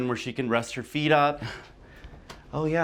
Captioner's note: none